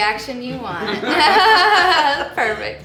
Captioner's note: laughing